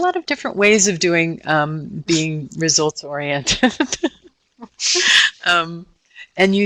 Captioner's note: laughing